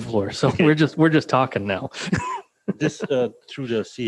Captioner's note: laughing